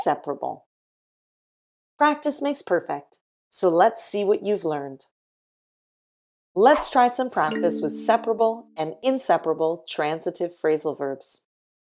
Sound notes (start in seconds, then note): none